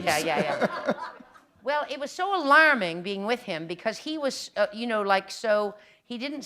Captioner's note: laughter